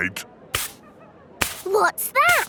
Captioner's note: brushing